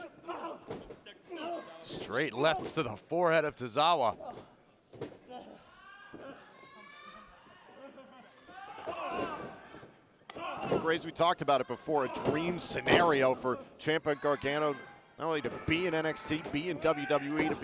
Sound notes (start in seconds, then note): 6.1 both grunting